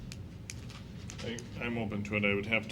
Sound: clicking

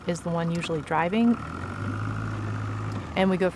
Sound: boat motor rumbles

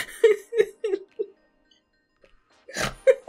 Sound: laughs incredulously; silence; snorts

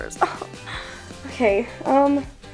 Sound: scoffs

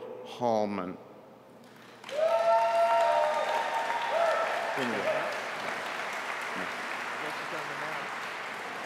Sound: applause

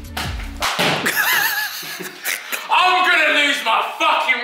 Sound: laughs

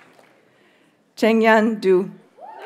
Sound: audience cheers and applauds

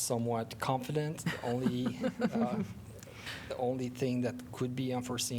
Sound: laughter

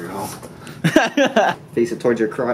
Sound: laughing

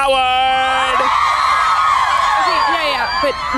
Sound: girls scream

